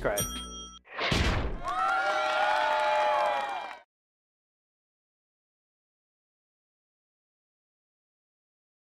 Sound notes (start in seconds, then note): 0.1 bell ringing; 1.6 cheering loudly